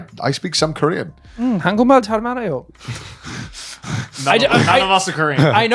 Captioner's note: speaks Korean